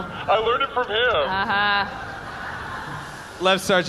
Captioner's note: audience laughs